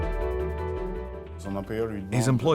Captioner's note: non-english speech